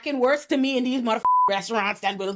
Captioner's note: beep